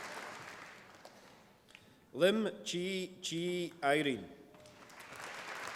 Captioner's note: applause